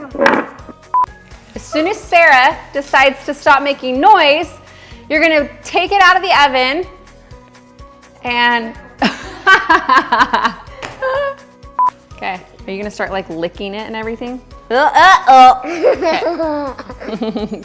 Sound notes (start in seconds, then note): 0.9 beep; 11.0 laughs; 11.7 beep; 15.6 laughter